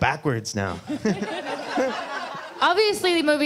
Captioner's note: laughter